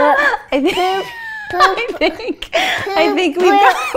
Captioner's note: laughing